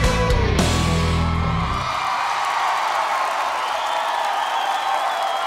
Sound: crowd cheering

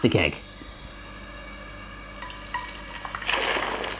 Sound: sizzling

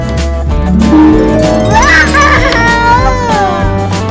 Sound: magic sound

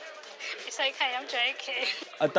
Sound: laughs

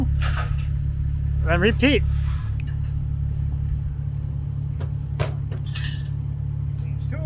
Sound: engine machine rumbling continues

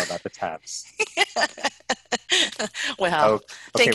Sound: laughs

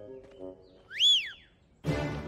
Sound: whistling

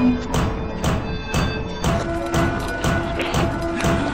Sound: metal banging

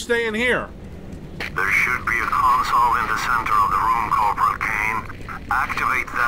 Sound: STRAUSS over the radio

